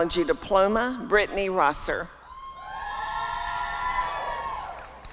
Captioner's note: applause and cheering